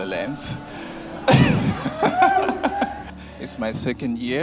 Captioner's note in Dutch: Lacht